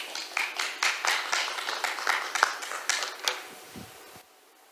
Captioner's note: applause